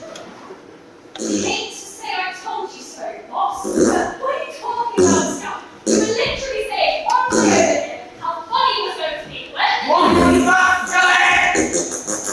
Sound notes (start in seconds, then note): 3.9 fart noises